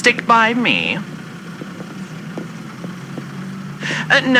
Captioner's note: walking up to a busy street fx